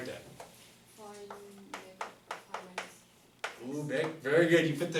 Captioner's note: voiceover